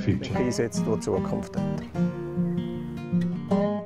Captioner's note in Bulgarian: глас зад кадър